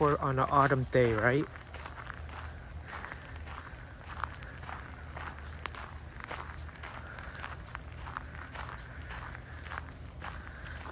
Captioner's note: walking on gravel